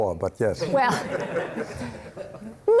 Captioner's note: crowd laughing